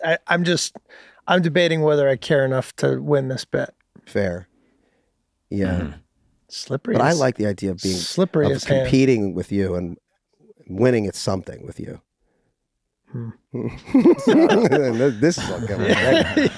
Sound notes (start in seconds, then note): 13.6 hosts laugh; 16.4 laughs